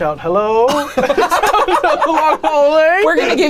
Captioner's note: everyone laughs